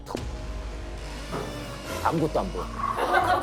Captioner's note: footsteps at the perfect moment